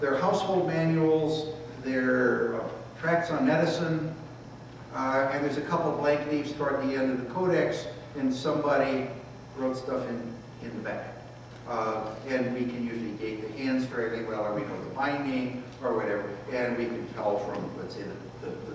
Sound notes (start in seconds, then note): none